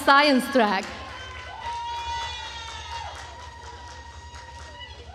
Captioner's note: attendees cheering